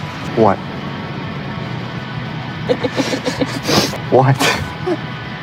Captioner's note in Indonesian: tertawa